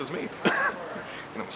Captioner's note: laughs